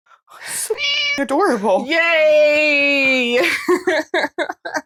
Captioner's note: meow